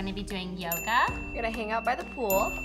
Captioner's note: bell rings